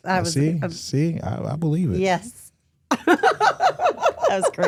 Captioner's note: laughs